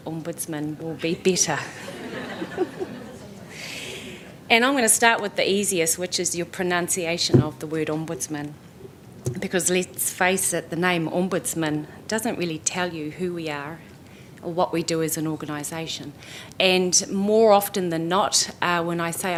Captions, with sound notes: Ombudsman will be better. [LAUGHTER] And I'm going to start with the easiest, which is the pronunciation of the word Ombudsman. Because let's face it, the name Ombudsman doesn't really tell you who we are, or what we do as an organization. And more often than not, when I say